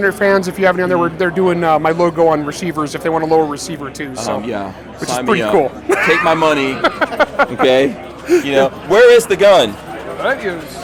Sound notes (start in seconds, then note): 5.9 laughs